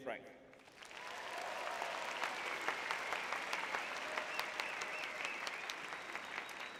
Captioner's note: audience cheering